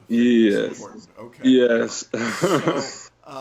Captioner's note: laughs